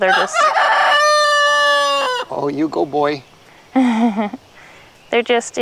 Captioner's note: crowing